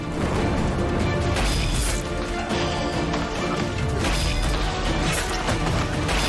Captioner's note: dramatic suspenseful music; thunder rumbling; weapons clanging